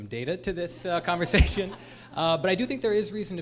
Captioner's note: laughter